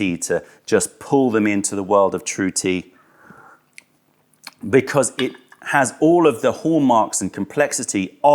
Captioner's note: sips tea